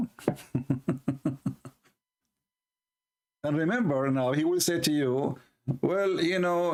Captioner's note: Ketawa